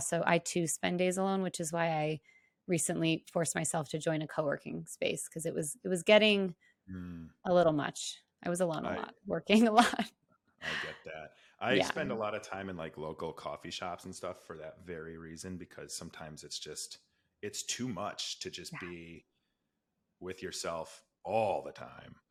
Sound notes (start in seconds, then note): 10.7 laughs